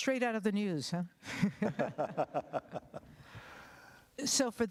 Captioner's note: laughter